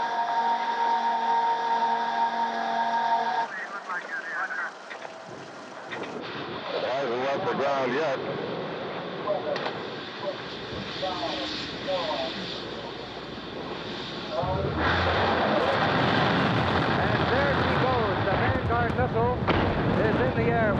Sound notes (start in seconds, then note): 0.0 alarm blaring; 3.3 radio squawking; 15.5 engines roaring